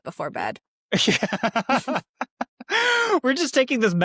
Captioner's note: laughing